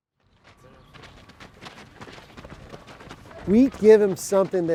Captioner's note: feet shuffling